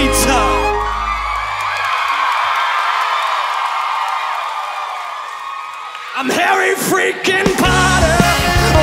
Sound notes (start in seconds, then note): 0.0 audience cheering